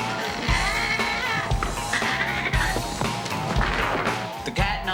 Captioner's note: cat growling